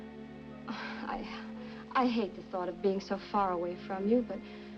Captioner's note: sighs